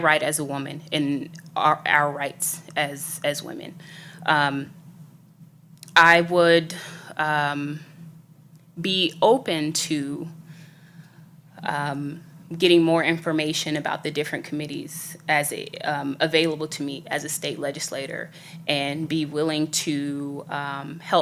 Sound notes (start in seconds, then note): none